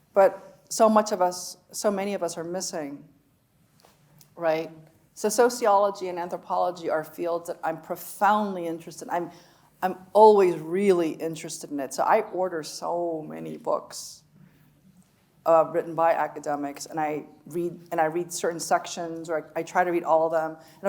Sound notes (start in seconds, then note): none